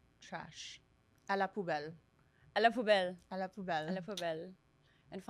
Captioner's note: speaking in French